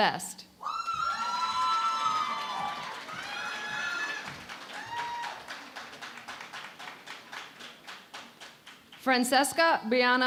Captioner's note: cheering and Applause